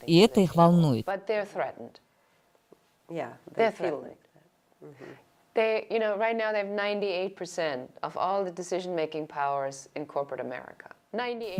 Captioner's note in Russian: Разговаривают на английском